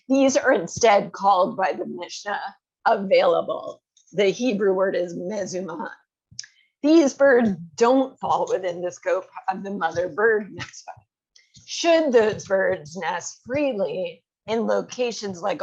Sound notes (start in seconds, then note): 6.0 hebrew